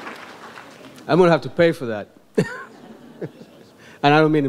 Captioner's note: laughs